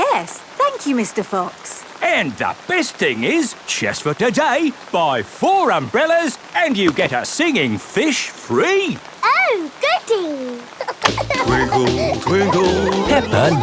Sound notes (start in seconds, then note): 10.6 giggling